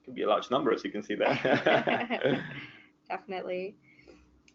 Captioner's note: laughs loudly